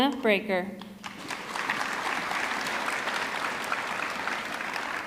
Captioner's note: audience clapping